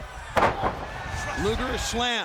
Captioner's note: Luger thuds